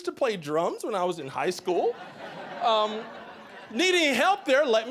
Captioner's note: audience laughing